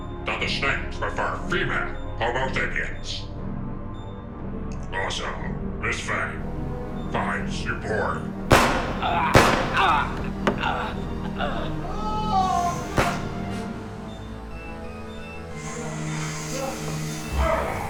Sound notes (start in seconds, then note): 8.5 guns firing; 12.1 victim screaming